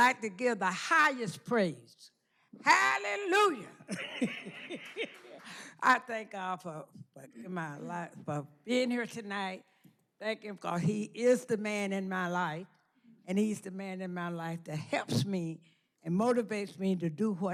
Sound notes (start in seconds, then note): 3.8 laughter